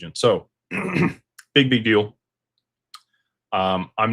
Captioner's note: clears throat